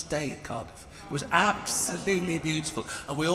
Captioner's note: audience murmuring